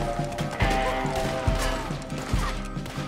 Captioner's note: none